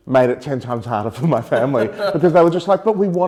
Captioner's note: both laughing